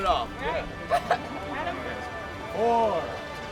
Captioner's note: chatter